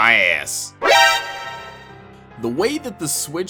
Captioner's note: insert alert noise